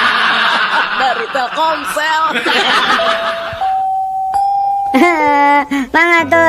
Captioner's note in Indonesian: tertawa